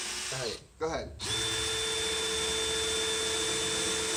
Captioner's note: more drill noises